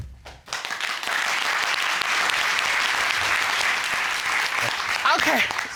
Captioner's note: cheers and applause